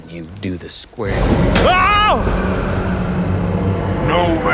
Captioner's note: scream